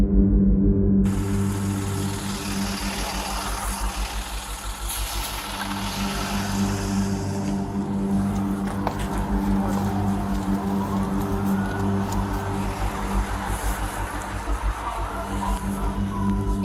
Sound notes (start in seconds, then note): 2.6 police sirens, traffic, and ambulance